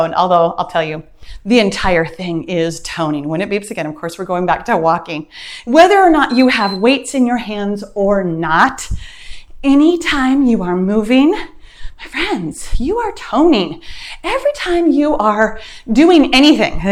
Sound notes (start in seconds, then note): 6.2 timer beeps